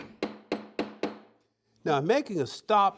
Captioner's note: hammering